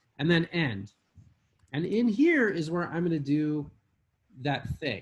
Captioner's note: none